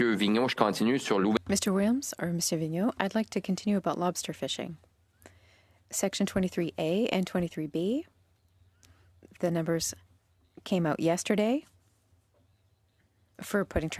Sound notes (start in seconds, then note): 6.2 speaking French